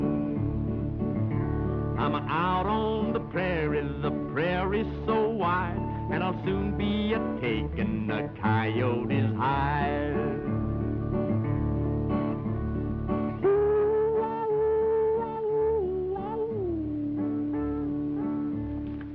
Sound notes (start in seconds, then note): 13.1 mock howling